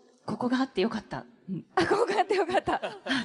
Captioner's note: laughing